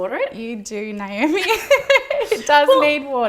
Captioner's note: both laughing